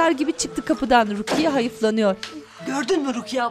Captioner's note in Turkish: Kapı Kapatma Sesi